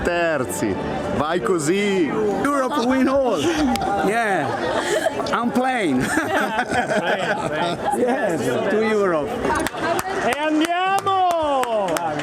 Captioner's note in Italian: Risate